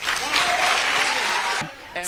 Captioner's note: cheering